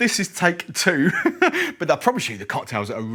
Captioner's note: laughs